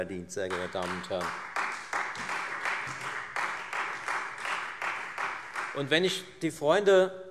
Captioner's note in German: Beifall Freie Demokraten und SPD